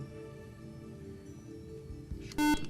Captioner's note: beeping